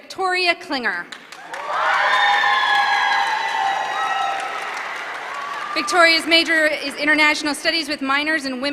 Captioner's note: applause